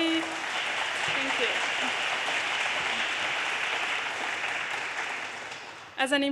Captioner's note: audience applause